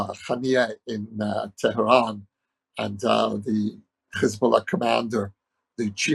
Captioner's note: speaking hebrew